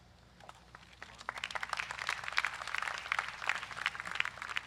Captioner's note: crowd applauds